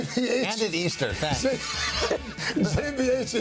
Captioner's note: laughter